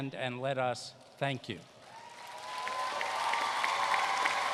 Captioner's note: applause